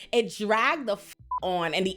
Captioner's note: beep